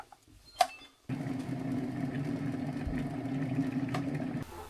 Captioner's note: kettle Boils